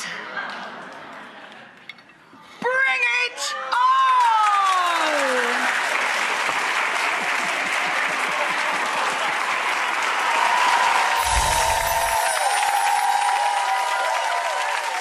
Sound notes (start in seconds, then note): 0.0 audience laughing; 4.7 audience cheering; 11.2 chimes tinkling